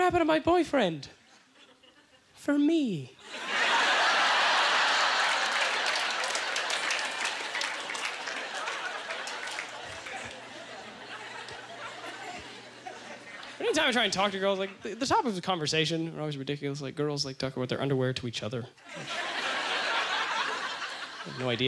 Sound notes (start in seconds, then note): 3.2 audience laughter; 7.2 scattered applause; 11.3 chuckling; 20.7 audience laughter